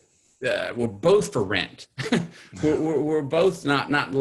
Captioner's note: laughs